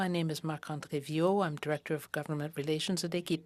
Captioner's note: speaking French